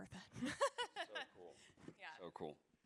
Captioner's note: laughs